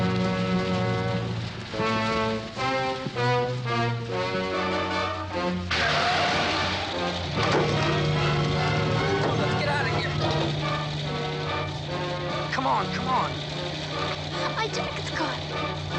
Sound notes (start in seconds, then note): 5.7 tires screech